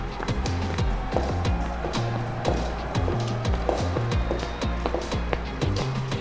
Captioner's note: two sets of footsteps echo in hallway, then stop